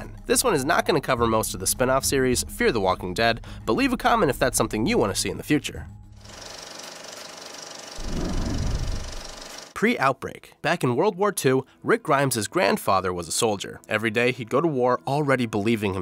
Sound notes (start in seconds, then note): 6.2 film reel whirring